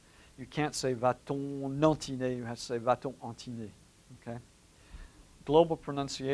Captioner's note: french